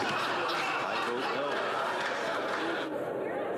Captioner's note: laughter